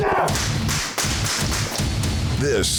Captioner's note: gun firing